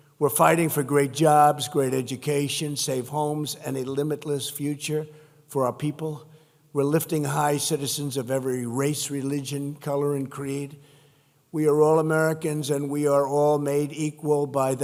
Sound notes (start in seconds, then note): none